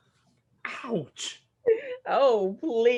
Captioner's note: Peaches laughs